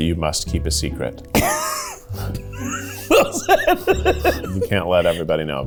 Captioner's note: laughing